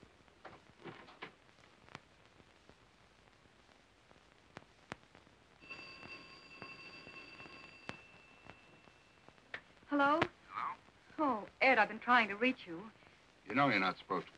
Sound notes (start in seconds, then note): 3.7 phone ringing; 9.5 on phone